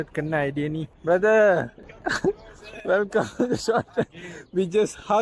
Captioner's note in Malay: ketawa